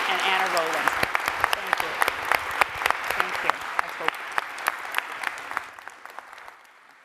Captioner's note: audience applauding